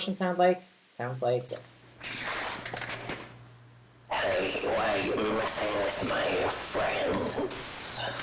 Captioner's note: sound breaks up